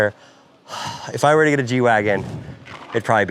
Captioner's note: sighs